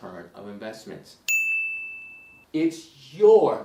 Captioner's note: bell rings